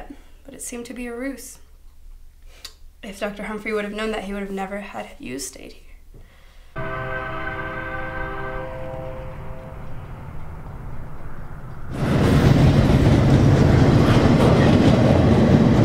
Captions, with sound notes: believed that but it seemed to be a ruse. If Dr. Humfrey knew, he wouldn’t have had you stay here. [train whistle] [train passes by]